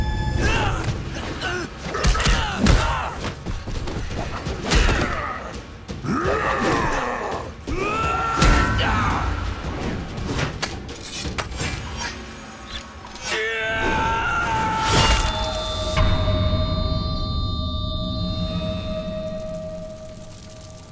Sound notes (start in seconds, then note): 0.2 grunting; 4.3 grunting; 13.2 screaming